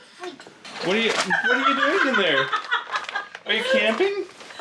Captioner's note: laughs